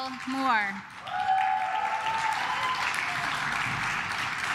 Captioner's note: claps